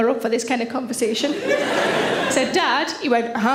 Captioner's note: audience laughs